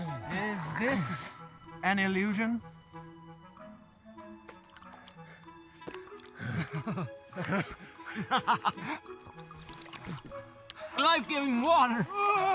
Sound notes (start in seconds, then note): 4.5 sounds of water; 6.4 laughing excitedly